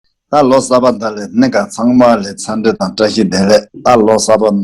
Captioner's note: speaking in foreign language